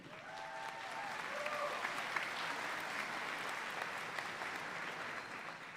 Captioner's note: audience cheering and applauding